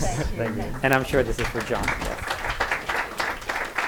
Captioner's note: applause